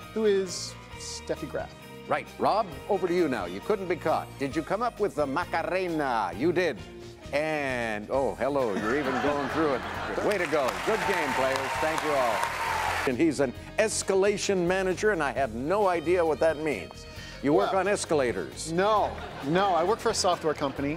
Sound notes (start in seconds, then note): 8.7 audience laughs